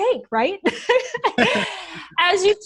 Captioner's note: laughter